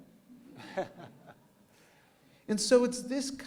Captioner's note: laughter